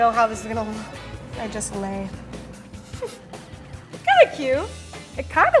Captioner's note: laughs